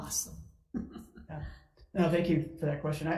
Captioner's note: chucking